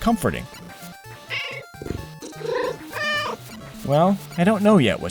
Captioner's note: meow